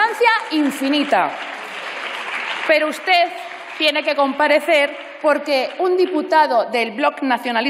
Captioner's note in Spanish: Aplausos